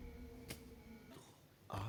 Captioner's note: music fades; distant temple bells ringing